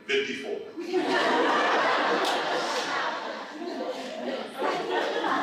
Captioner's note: laughter